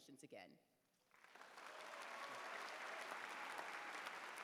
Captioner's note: applause